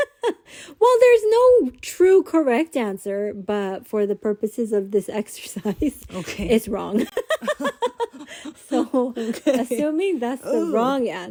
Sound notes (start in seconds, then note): 6.9 laughter